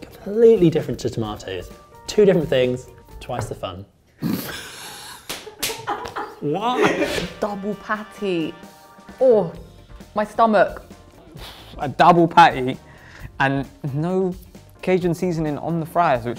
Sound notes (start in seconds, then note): 4.2 laughs